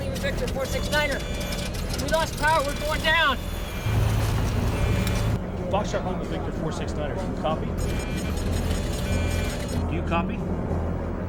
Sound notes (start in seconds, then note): 7.7 alarm beeps